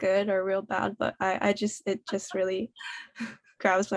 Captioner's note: laughter